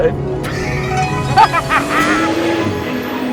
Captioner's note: laughs